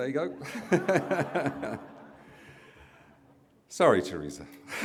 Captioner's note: laughs